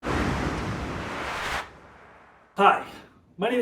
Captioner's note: transition whooshes